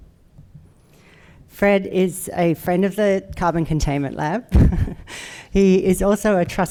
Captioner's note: chuckles